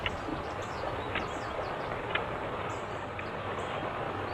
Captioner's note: tap tap tap